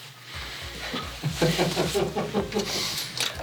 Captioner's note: laughter